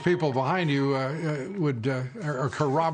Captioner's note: cheers and applause